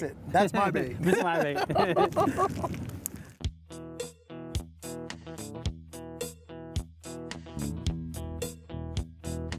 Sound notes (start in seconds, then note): 1.0 both laugh; 3.4 laid-back guitar music